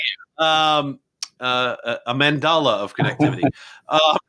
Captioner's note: laughing